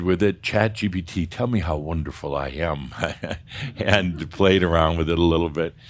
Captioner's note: Adamus chuckles